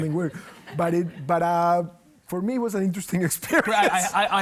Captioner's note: laughs